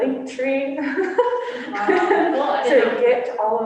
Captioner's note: laughter